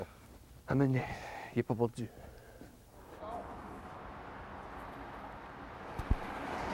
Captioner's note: speaking Acadian French